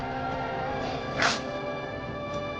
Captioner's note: grunting; metal slicing